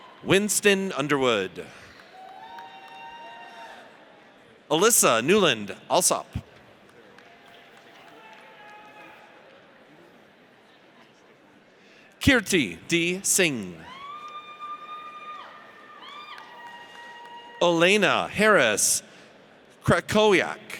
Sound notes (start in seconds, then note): 0.0 audience cheers; 1.9 audience cheers; 6.8 audience applauds; 12.9 audience cheers